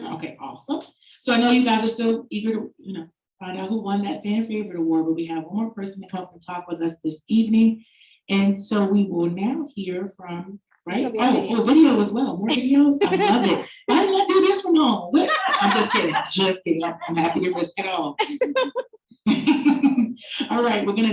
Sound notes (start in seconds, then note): 15.1 lady laughing; 19.3 moderator laughing